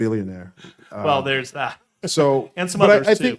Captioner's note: laughing